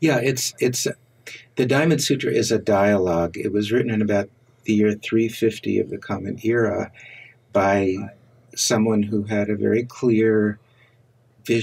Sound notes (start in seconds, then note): none